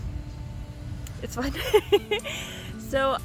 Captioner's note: laughs